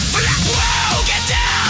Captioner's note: brt Brt Brt